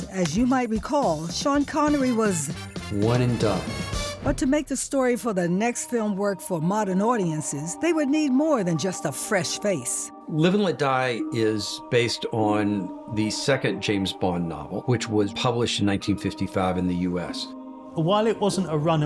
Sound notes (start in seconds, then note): 3.9 echoing